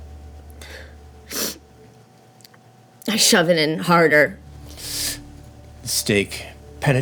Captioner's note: sniffling